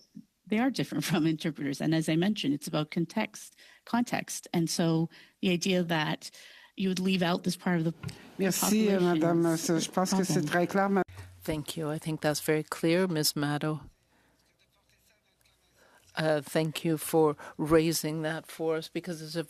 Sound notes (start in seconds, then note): 15.3 speaking French